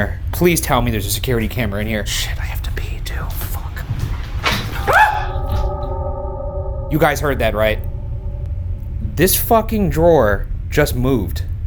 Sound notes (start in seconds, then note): 4.3 item clicking; 4.7 screaming